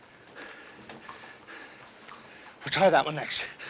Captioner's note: panting